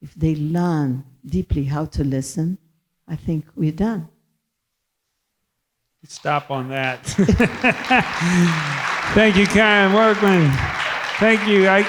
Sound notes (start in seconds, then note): 6.2 audience applauding; 6.2 laughs